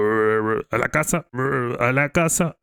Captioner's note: more complaining